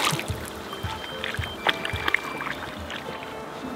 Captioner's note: water splashing